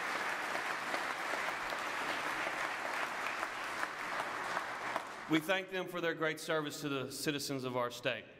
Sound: applause

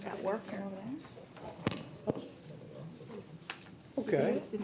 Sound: people chattering

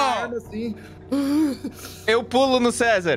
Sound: heavy breathing

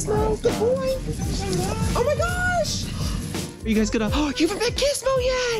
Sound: gasps

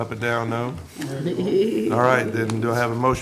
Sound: laughs

